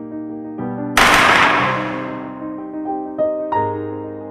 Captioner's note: sound of gun